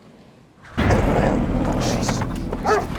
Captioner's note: dog growling